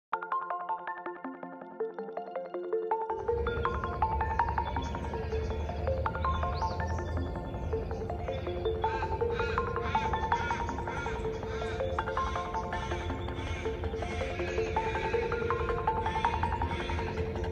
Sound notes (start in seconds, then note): 6.6 bell-like bird call sounds in the background; 10.2 a crow calls loudly; 13.0 more crows join in